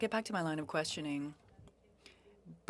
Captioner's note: speaking French